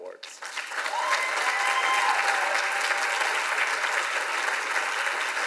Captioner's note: audience applauds and cheers